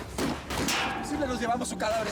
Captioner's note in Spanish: siguen los disparos